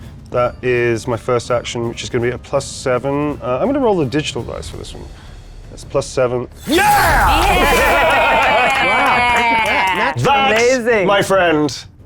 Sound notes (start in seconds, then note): 7.3 players applauding; 7.5 laughing